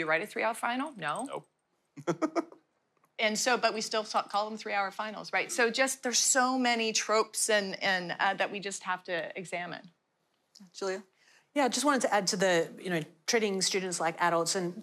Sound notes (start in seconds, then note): 2.0 laughter